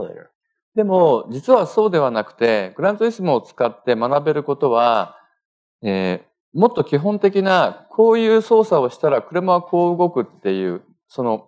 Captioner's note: speaking japanese